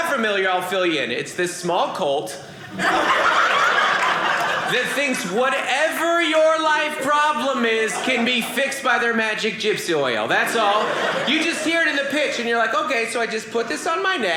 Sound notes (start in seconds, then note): 2.6 audience laughing